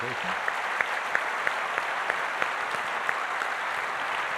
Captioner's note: applause